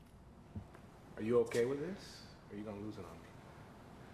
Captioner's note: none